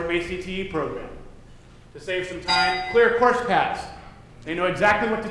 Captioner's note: dinging